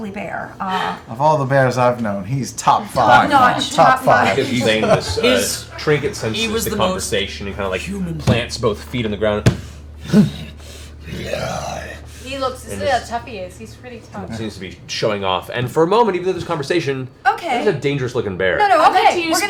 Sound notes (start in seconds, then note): 9.9 growls